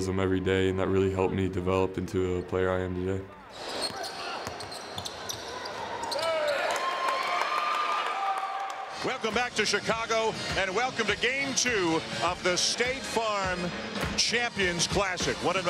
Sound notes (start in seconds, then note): 3.5 shoes squeaking; 6.7 crowd cheers